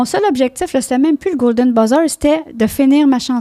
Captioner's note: in french